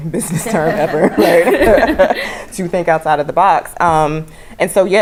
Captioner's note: laugh